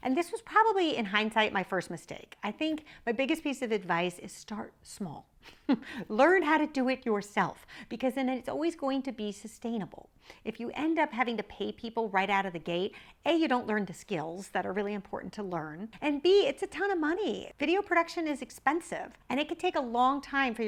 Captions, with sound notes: And this was probably, in hindsight, my first mistake. I think my biggest piece of advice is start small. (laughs) Learn how to do it yourself because then it's always going to be sustainable. If you end up having to pay people right out of the gate, A, you don't learn the skills that are really important to learn. And B, it's a ton of money! Video production is expensive and it could take a long time